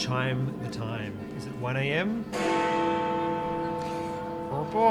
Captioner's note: Big Ben chimes 1